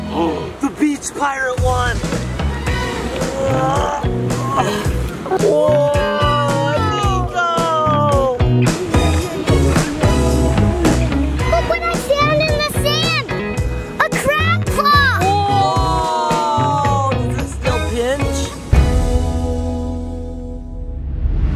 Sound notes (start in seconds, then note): 0.4 gasp; 4.4 grunting; 8.3 light upbeat music